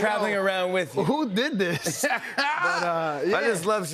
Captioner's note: laughs